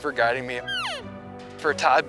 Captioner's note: cow elk call